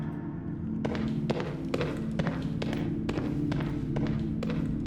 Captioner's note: footsteps thudding